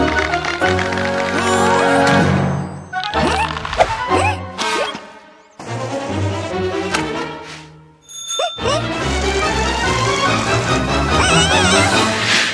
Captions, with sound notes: Huh? Huh? - (bicycle bell ringing) - Heh, heh? (exclaiming)